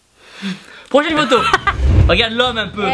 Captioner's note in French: Rires